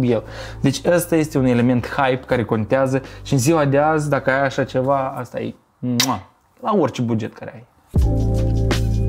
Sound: kiss

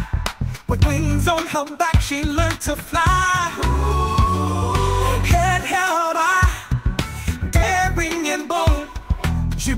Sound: oooh

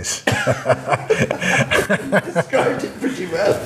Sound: laughing

